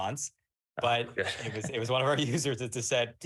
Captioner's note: chuckles